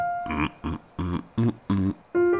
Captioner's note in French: fredonne